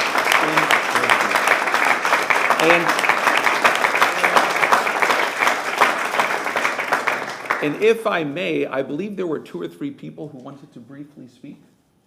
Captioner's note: applause